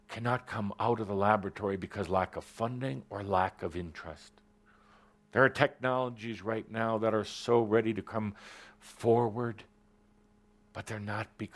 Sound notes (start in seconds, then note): none